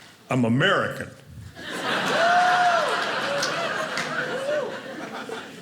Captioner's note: audience laughing